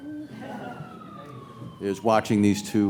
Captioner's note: audience laughs